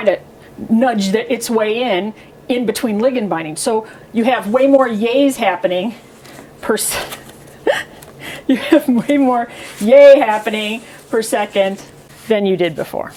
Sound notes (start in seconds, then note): 7.6 laughs